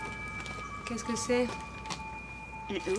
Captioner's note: Marie, speaking French